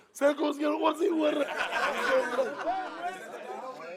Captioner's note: laughter